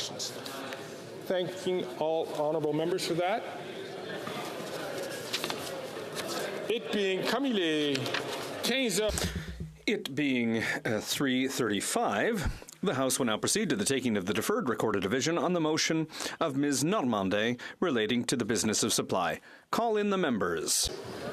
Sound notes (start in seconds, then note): 14.5 speaking French